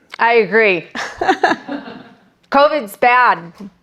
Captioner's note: audience laughing